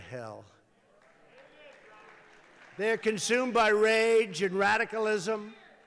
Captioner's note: applause